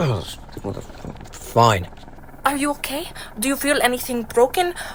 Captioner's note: cough, grumble